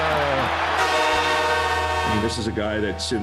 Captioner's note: horn blares